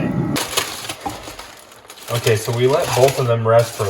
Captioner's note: foil crackling